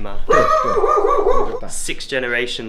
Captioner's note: dog barking